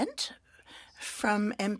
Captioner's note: speaking French